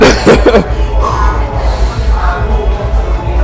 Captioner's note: laughs